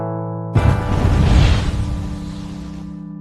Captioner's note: woosh